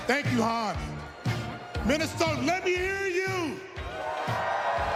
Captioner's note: cheers and applause